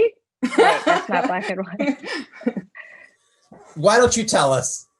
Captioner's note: laughs